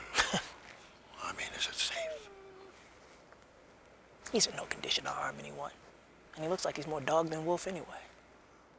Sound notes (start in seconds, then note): 0.0 chuckles; 2.9 dog whimpers